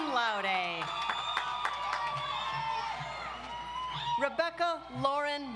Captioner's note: audience applauds